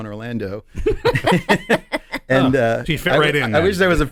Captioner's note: laughing